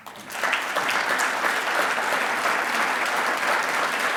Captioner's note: audience applauding